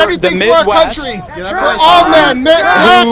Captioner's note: crowd Shouts